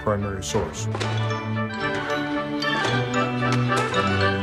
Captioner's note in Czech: cinkání negativů